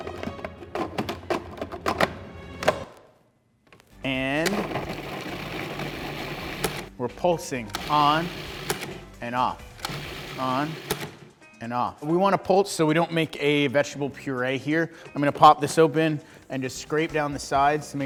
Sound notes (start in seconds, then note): 4.4 processor whirs